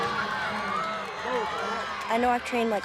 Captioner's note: crowd chattering